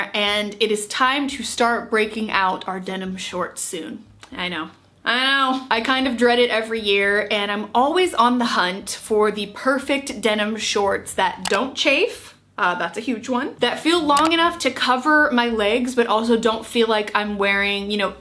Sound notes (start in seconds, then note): 11.4 mouse clicking; 14.1 mouse clicking